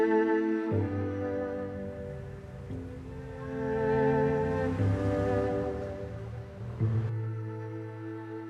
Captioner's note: city traffic in background